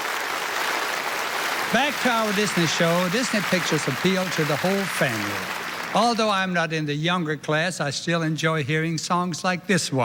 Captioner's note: applause